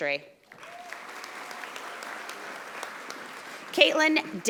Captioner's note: audience applauding